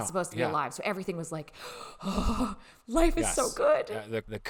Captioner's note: sounding bewilderment